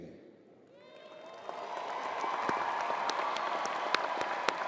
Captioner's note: crowd applauding